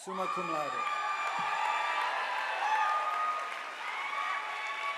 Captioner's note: audience applauding